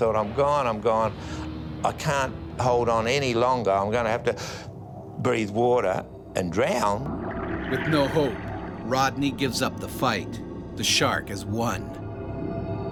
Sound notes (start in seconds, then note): 4.3 gasps; 7.7 voiceover